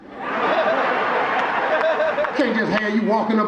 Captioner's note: audience laughing